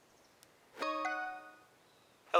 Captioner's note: phone chimes